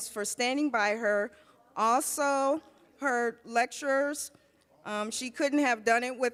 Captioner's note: none